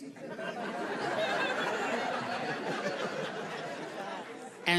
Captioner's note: audience laughing